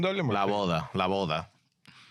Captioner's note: speaking In Foreign Language